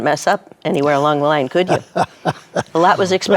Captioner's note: laughs